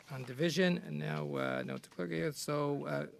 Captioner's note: speaking French